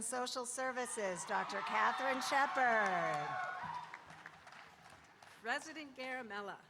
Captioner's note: audience cheering